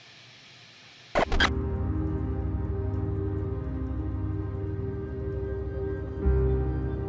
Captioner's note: static crackles; brooding music